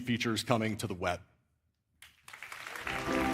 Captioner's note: applause